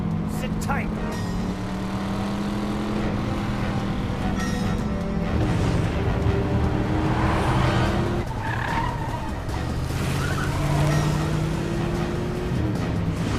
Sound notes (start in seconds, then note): 1.7 dramatic music; 1.7 engine revving; 7.6 tires squealing